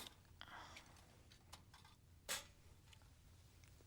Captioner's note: whispering